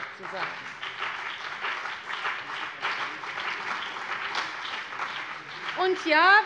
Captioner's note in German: Beifall CDU und BÜNDNIS 90/DIE GRÜNEN